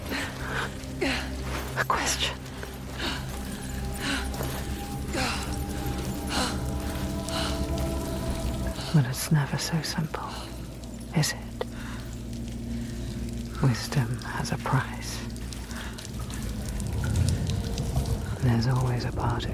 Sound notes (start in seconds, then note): 1.0 senua grunting; 8.3 senua grunting and panting; 17.6 water trickling